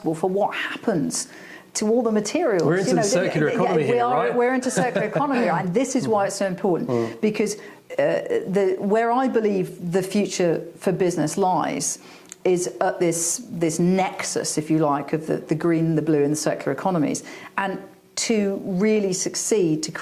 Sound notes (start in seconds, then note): 4.7 laughing